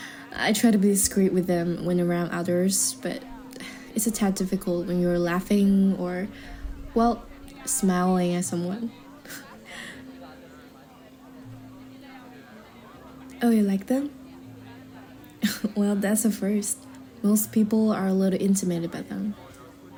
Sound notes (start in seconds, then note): 9.2 chuckle